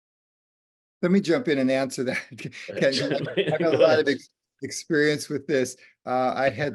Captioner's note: laughter